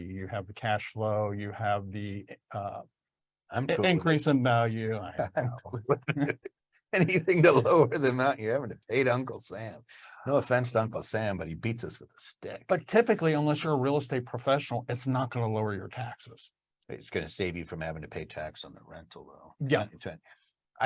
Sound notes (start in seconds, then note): 5.2 laughs